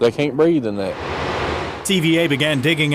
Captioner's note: construction vehicles idling